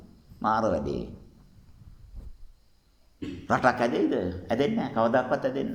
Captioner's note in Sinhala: උගුර කෑරීම